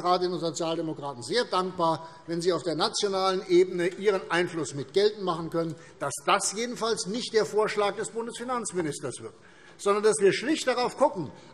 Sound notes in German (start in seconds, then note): none